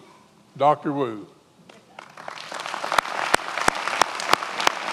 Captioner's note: many applauding